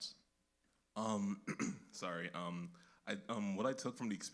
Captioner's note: clears throat